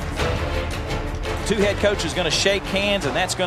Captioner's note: voiceover